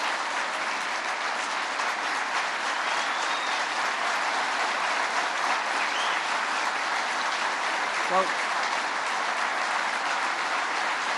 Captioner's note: applause